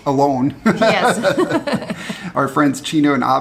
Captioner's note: both laugh